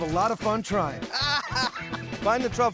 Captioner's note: laughter